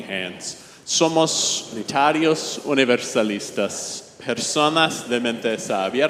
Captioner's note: congregation speaking in Spanish